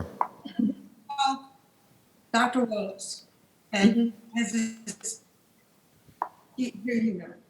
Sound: cracking drowns out speaker

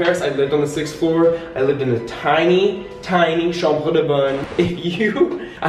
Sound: speaking in foreign language; laughing

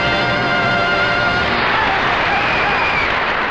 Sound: audience applauding

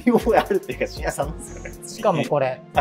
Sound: laughing

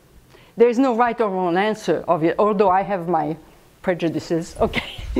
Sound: laughs

